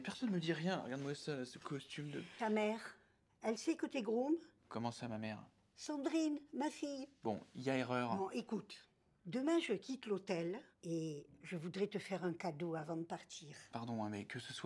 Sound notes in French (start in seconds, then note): none